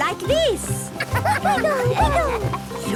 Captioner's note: laughter